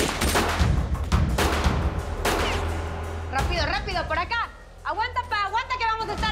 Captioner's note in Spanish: Disparos